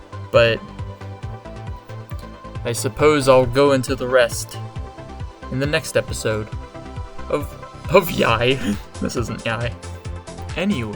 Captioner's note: laughs